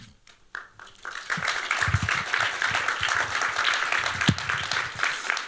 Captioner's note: applause